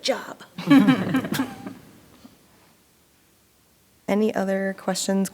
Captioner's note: board members chuckling